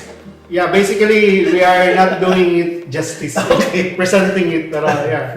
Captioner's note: laugh